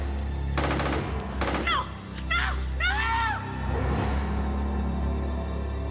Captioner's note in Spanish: Disparos